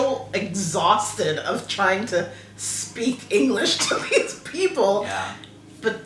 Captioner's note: laugh